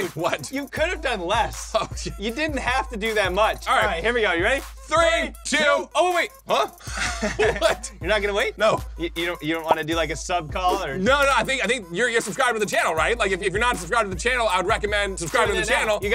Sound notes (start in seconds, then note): 6.7 laughs